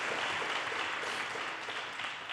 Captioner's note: audience cheers and applause